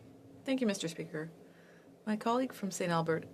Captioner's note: speaking French